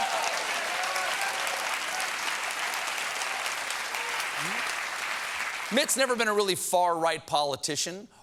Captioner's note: applause